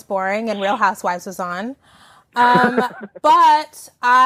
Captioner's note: laughing